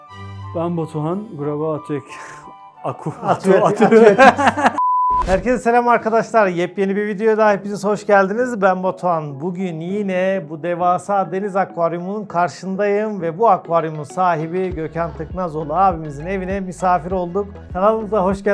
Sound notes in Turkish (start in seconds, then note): 2.9 kahkaha